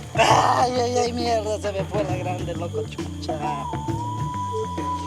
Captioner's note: foreign spoken audio